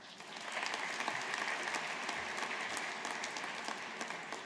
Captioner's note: audience applauding